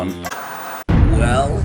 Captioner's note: static